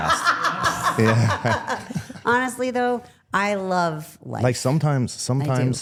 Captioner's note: laughs